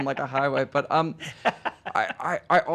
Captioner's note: laughing